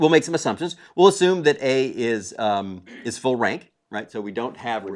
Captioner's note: cough